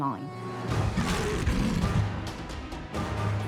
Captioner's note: snarling